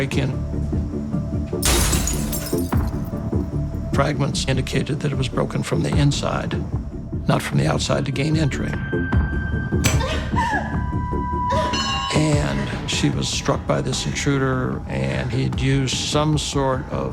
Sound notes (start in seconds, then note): 10.0 crying